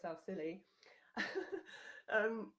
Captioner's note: laughing